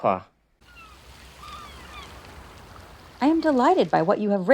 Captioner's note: seagulls and waves